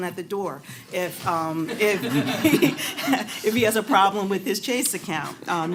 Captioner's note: laughter